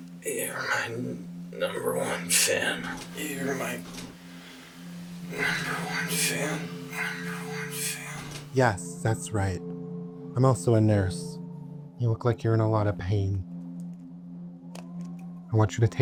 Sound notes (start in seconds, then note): 5.3 echoes